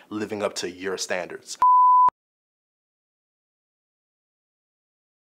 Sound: screen beeping

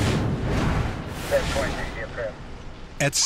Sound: police radio

